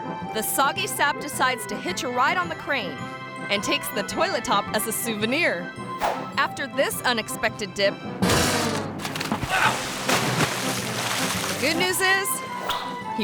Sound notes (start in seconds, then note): 8.3 outhouse bangs; 8.9 water splashes; 9.4 dock worker grunts